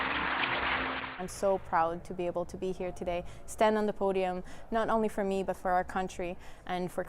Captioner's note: cheers and Applause